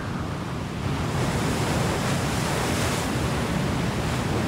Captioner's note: waves crashing